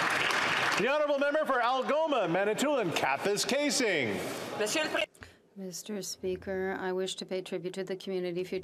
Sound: some Applause

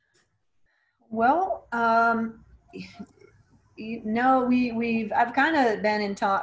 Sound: stammering

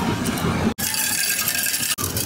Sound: coins clanging

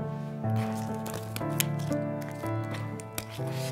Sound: cards Rustling

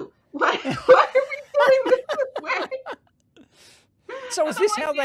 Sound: laughter

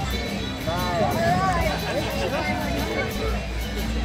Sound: background chatter

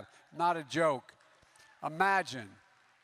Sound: applause

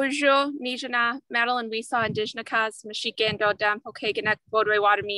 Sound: speaking in foreign language

